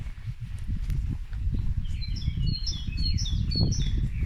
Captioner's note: walking & wind